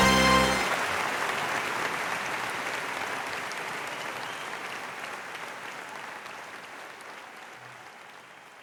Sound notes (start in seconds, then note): 0.0 crowd cheers; 0.0 crowd applauds